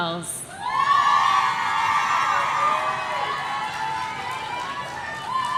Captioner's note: audience cheering